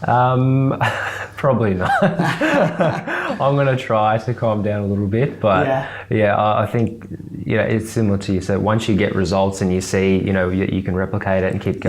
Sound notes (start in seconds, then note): 1.8 laughs